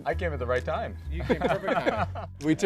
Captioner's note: all laughing